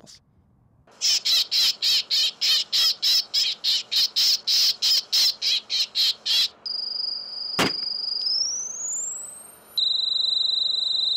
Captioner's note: sounds of: Bird noises, Loud Noises and Gun Fire